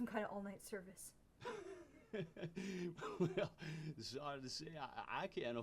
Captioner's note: laughs